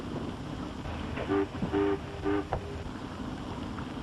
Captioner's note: foghorn blares